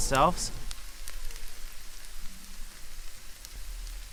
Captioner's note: sizzling